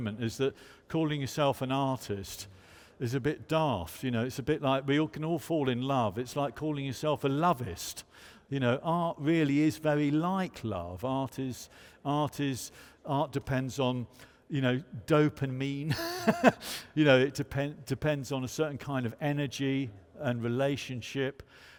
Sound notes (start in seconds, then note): 15.9 chuckles